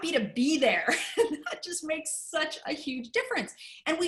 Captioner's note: laughter